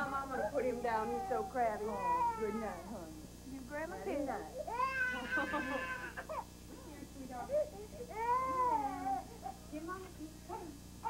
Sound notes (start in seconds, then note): 4.6 baby crying